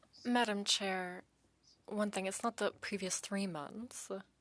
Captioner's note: speaking French